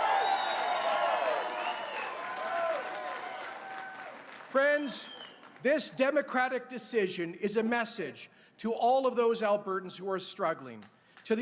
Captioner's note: cheers and applause